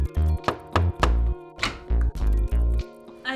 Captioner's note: knocking; door opens